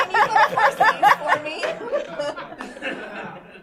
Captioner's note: laughter